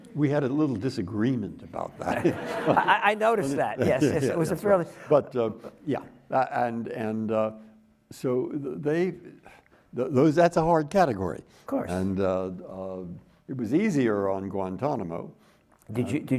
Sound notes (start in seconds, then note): 1.9 audience laughing